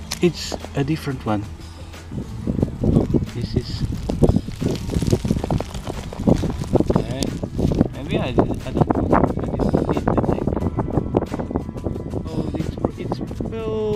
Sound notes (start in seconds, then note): 2.3 wind noise